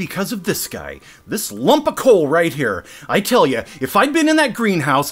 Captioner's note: incensed